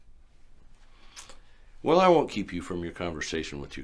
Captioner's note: none